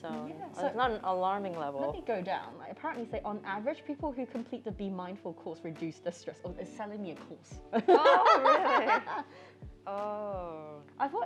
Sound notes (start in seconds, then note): 7.8 laughs